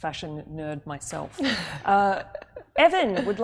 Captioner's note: laughs